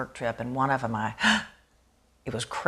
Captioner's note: gasps